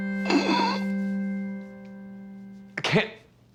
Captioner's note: Rico choking